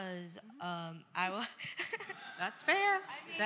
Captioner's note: laughter